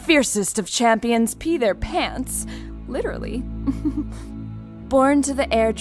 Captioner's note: soft chuckle